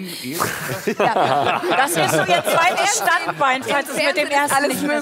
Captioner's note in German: Lachen